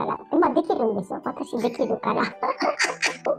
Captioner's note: laughs